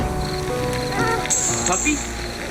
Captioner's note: door shutting; dog barking